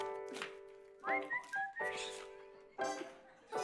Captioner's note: whistles to music